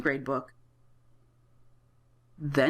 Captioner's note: silence